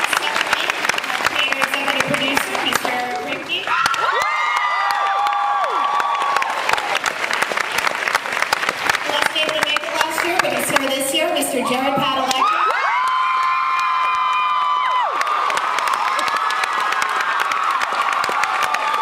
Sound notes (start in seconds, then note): 5.2 cheers; 15.5 cheers